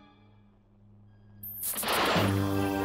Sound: static sounds

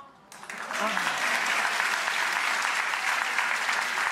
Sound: clapping

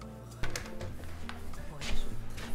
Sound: chair scuffs the floor

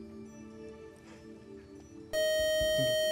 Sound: time-out buzzer

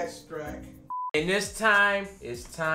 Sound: electronic beep

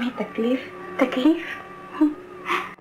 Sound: sighs

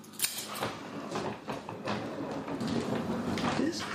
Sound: footsteps

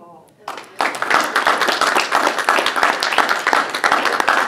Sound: applause

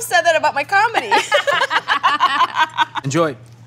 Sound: laughing

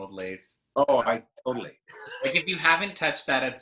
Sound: laughs

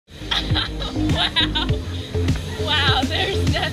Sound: laughing

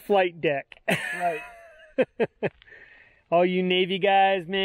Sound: laughing

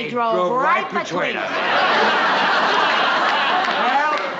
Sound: laughter

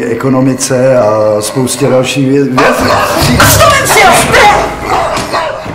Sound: štěkot

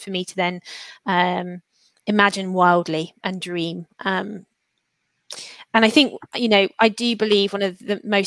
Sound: erm

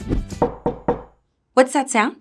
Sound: loud knocking

